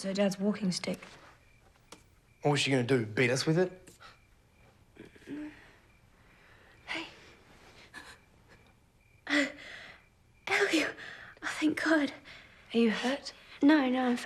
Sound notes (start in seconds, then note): 5.0 groans; 8.0 gasps